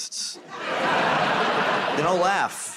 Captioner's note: laughter